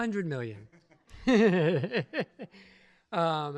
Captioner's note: chuckles